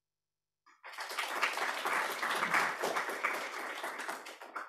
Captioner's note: applause